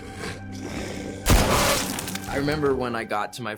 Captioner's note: snarling; gunfire